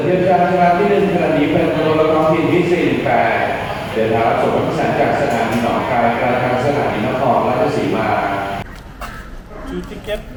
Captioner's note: station announcement